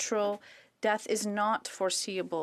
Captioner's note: speaking french